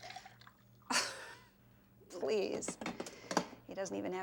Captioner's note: chuckles